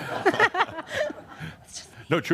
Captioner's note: she chuckles; whispers